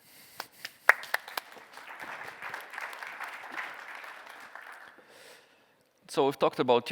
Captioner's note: applause